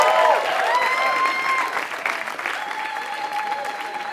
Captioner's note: applause